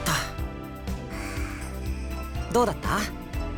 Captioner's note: flustered breath